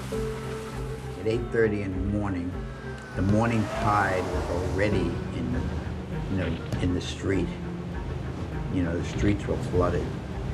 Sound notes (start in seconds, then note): 2.5 sirens wailing